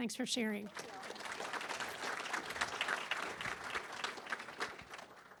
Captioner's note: applause